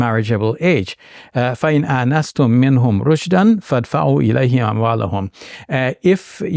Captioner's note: speaking in Arabic